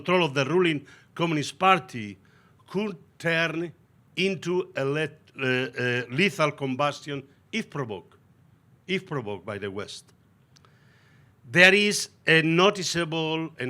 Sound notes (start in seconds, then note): none